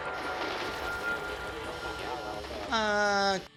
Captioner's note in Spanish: Disparos en el juego